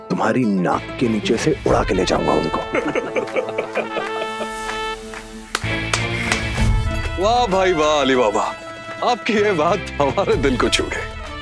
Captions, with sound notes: I will take her away from right under your nose! [laughter] [clapping] Amusing, Ali Baba! I am touched by your words!